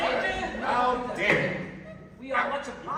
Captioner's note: MARCO, loudly; bottle thumps down